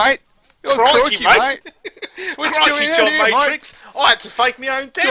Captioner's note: Stupid Aussie accent